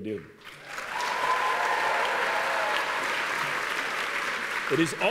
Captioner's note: applause; cheering